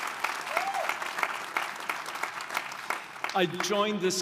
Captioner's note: audience applauding